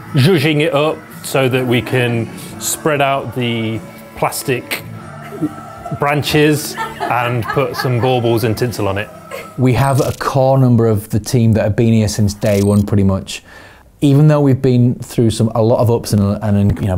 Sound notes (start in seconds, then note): 6.7 laughing